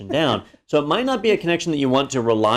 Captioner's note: laugh